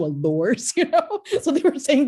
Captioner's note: laughs